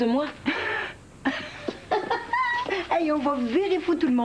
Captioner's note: Rire